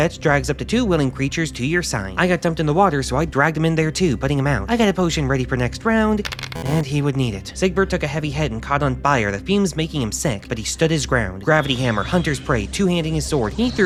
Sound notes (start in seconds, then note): 6.2 rolling dice, failure buzzer